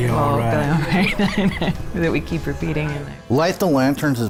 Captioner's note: laughing